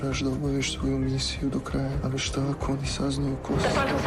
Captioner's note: speaking Serbian